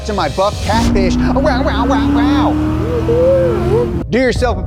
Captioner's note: engine car revving